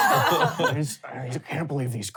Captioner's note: laughing